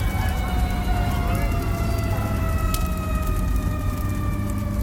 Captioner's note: fire engine siren wailing